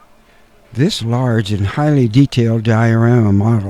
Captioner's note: laughs